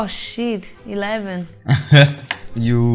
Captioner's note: chuckles